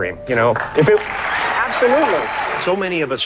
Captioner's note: audience applauding